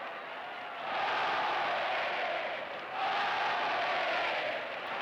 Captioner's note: cheers and applause